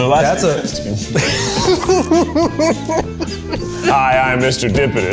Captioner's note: laughing